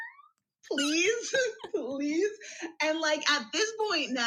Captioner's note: laughs